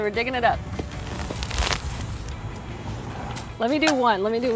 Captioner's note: digging sounds